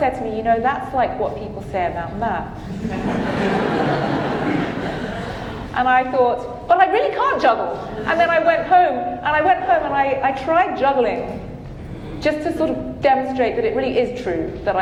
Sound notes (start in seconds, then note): 2.6 audience laughing